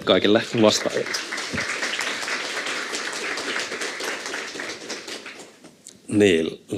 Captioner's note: Aplodeja